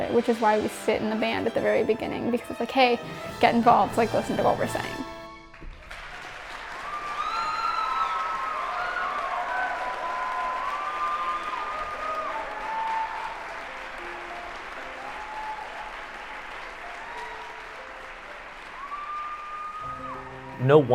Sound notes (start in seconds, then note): 5.3 applause